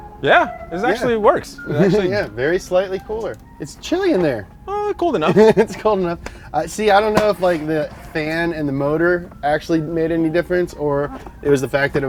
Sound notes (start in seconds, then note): 5.2 laughs